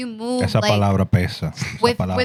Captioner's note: speaking In Foreign Language